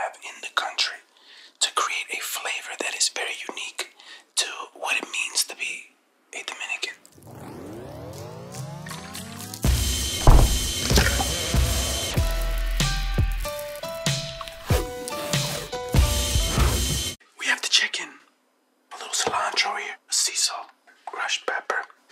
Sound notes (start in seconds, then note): 7.2 liquid pours; 7.2 slow, sensual music; 10.2 thumps; 10.2 crunches; 12.5 slow, sensual music